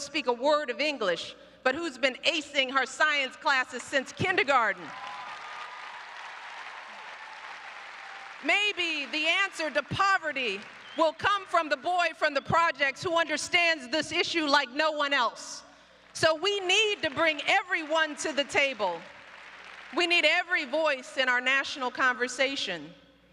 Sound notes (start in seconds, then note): 6.5 applause